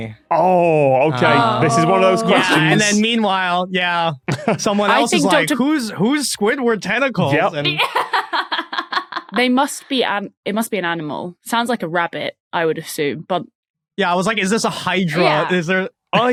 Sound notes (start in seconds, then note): 7.3 laughs